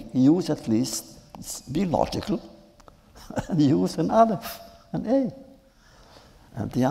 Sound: laughs

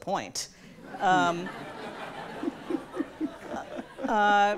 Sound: audience laughs

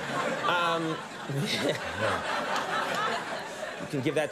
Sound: audience laughs

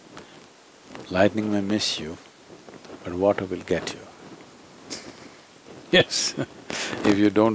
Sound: laughs

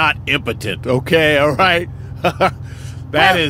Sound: laughs

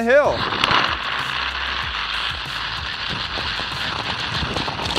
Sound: wheels spinning along track

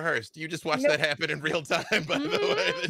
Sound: laughs

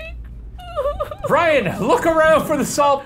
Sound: fake cries

